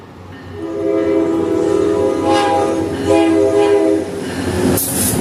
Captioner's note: happy horn